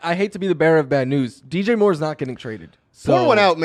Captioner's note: laughs